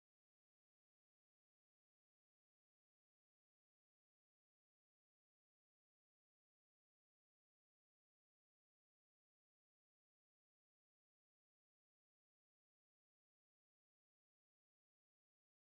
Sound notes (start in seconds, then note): none